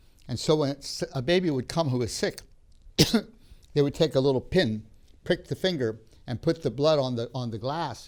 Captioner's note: coughs